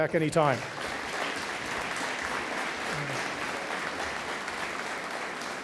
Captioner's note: audience applauding